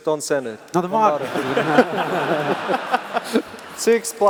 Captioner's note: laughter